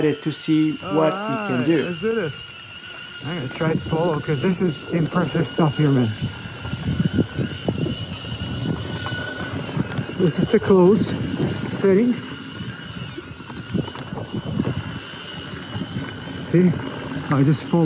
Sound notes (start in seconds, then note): 8.0 propeller noise